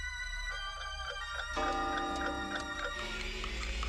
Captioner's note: clocks chiming